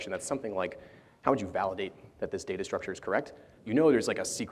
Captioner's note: none